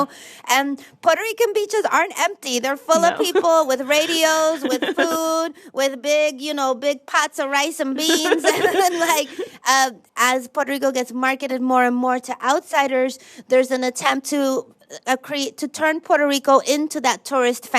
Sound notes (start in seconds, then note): 8.0 laughter